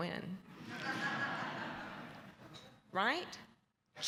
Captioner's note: laughter